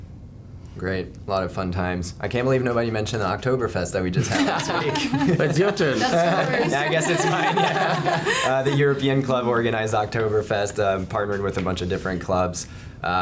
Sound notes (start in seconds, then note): 4.2 laughs